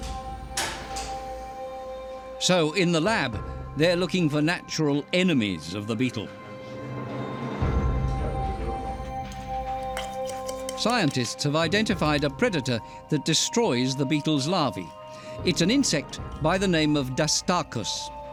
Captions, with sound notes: [metallic clang] So, in the lab, they're looking for natural enemies of the beetle. [scraping] Scientists have identified a predator that destroys the beetle's larvae. It's an insect by the name of dastarcus.